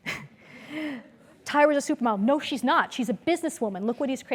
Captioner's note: laugh